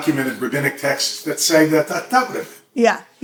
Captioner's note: hebrew